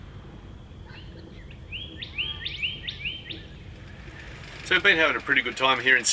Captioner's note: birds chirping